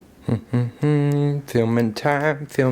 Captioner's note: humming